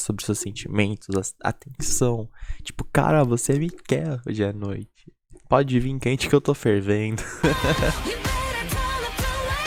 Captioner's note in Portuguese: risos